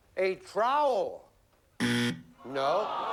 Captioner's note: buzzer